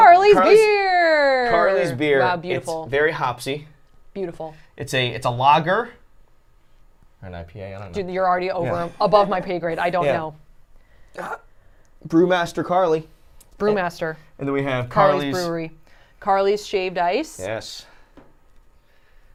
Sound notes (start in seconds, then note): 7.4 mumbling